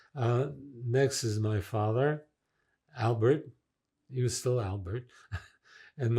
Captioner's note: laughing